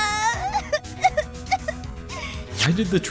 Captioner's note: sobbing!